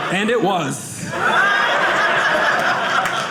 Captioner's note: audience laughing